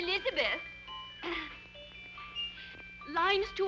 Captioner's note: Elizabeth clears throat